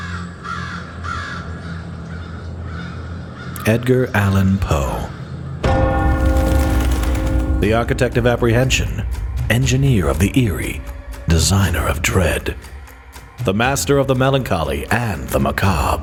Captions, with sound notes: (birds call) - Edgar Allan Poe. (clock chimes) The architect of apprehension. Engineer of the eerie. Designer of dread. The master of the melancholy and the macabre.